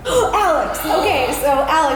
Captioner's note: gasp